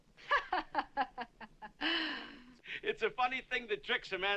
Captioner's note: chuckling